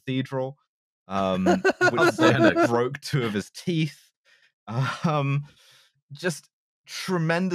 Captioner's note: laughs